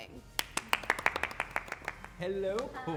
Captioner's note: applause